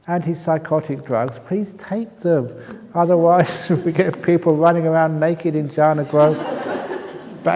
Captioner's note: laughter